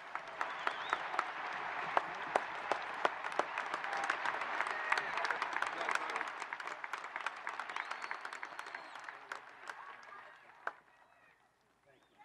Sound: applause

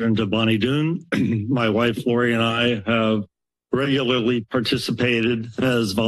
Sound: clears throat

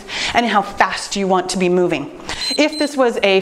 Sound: timer beeps

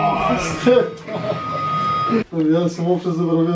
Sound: laughter

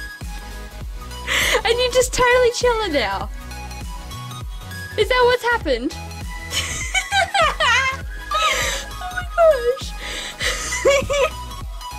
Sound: laughs

